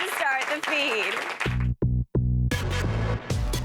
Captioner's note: cheers and applause